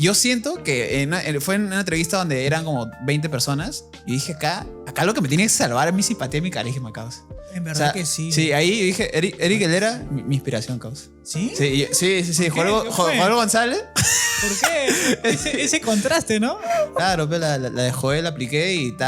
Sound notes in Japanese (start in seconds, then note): 14.0 ははは